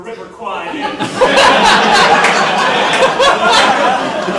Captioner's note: audience laughing